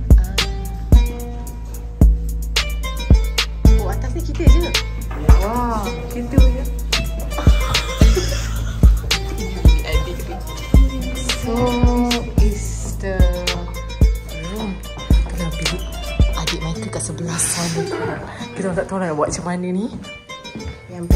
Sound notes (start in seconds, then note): 0.1 background music; 7.6 laugh